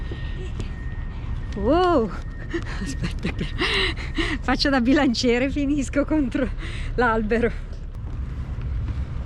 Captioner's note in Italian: risate